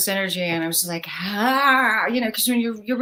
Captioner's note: groans